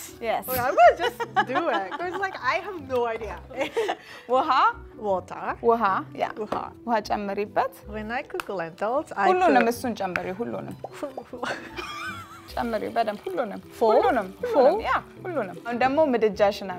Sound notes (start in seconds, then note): 3.9 speaking Amharic; 6.5 speaking Amharic; 9.7 speaking Amharic; 12.7 speaking Amharic